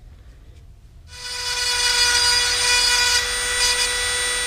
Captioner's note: dremel whirring